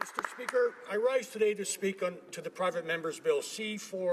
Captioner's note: some applause